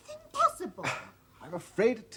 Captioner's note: sighs deeply